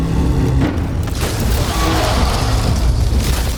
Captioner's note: roaring